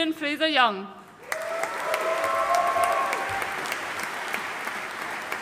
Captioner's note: audience cheering and applauding